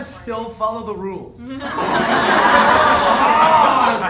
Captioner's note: laughter